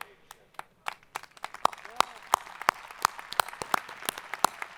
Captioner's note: audience applauding